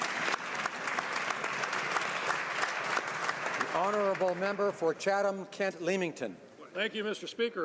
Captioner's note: applause